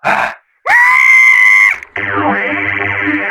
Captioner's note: screaming